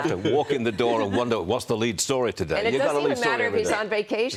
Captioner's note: laughter